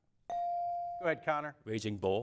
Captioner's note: bell dings